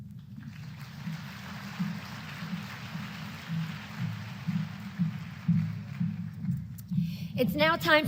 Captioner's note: applause